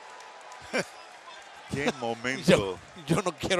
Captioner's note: laugh